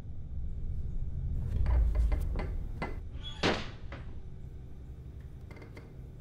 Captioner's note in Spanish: creak and bang